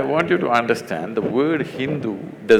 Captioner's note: laughs